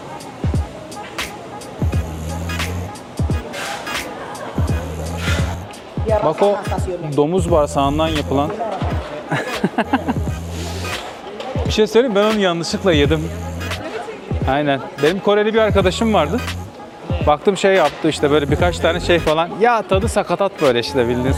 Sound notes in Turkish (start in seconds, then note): 9.2 kahkaha